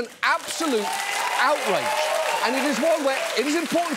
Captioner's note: audience cheers, applauds